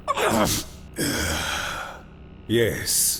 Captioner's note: resigned sigh